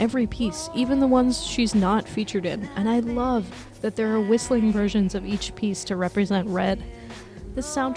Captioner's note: humming